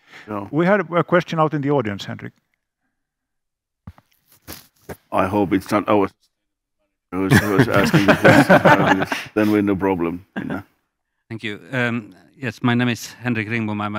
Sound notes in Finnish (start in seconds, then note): 7.2 Laughter